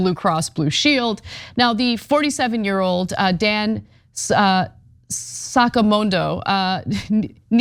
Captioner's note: laugh